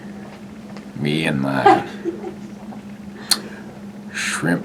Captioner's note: laughter